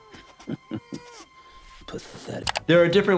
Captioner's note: character laughs